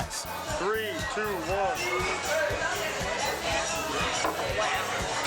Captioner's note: bar patrons chattering